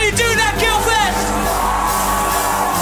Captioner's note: audience cheers